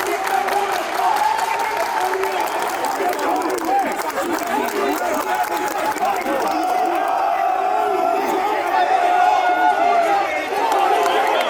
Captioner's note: team Cheering